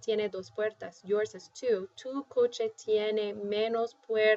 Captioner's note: speaking spanish; speaking spanish